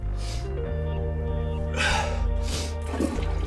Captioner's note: Drew groans; Drew sighs; toilet flushing